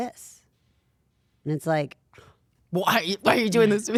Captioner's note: sighing